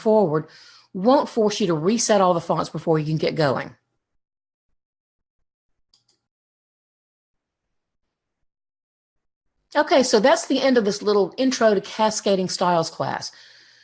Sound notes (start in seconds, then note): 5.9 mouse clicks